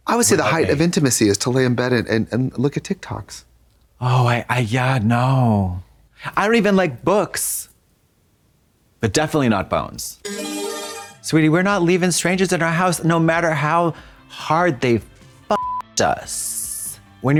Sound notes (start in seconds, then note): 10.2 bright chime; 15.5 beep